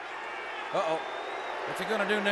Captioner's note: audience jeers